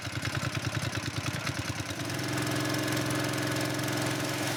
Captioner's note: engine rumbling